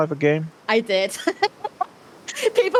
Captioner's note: laughter